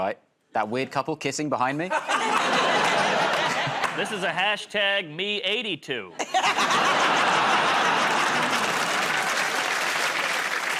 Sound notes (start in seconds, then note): 1.9 laughter; 6.1 laughter; 7.3 applause